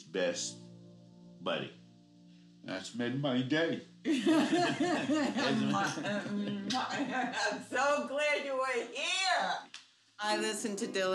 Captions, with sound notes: this has been his best buddy. That's made my day. (laughing) - I'm so glad you were here.